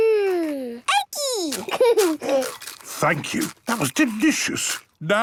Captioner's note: laughing, crunching